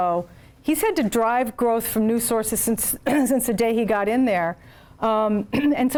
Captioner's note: cough